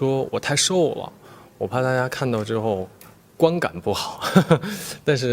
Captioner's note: laughs